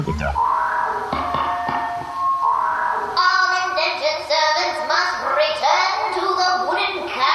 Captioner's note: a loudspeaker begins blaring